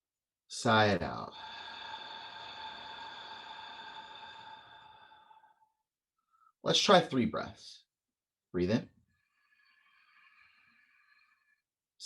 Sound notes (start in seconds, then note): 1.2 exhale; 9.0 inhale